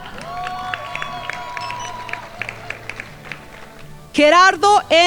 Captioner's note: crowd applauding